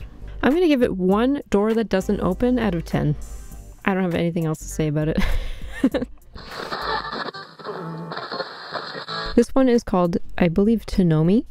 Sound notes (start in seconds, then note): 6.4 channel change static